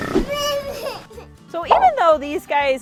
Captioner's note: child moos